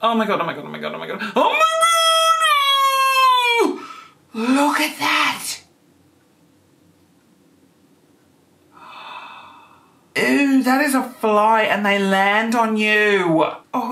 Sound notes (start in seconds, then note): 1.4 screaming